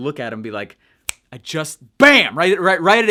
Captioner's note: snapping finger